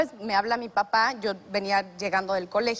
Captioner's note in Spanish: none